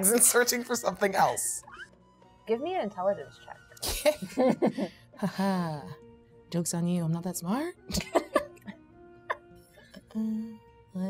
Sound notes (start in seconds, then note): 3.5 chuckles; 7.9 chuckles